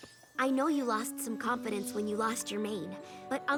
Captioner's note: gasp